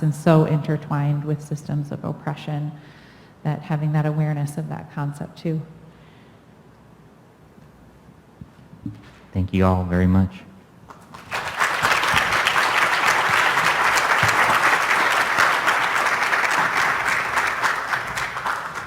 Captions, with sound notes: and so intertwined with systems of oppression, that having that awareness of that concept too. Thank you all very much. [APPLAUSE]